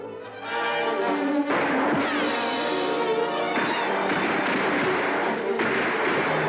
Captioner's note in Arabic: موسيقى قوية; إطلاق نار